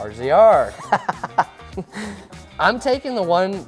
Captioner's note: laughs